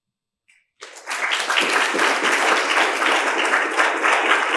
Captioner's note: audience claps